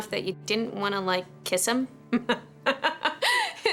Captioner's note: laughs